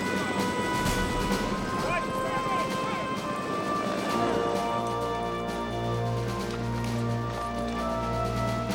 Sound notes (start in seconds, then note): 1.5 men chattering